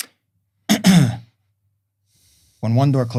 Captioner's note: clears throat